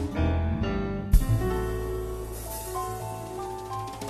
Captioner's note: none